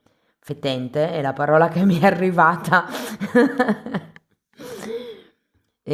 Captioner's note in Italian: risate